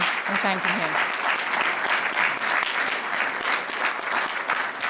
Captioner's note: applause